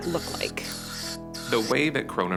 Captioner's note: spray squirting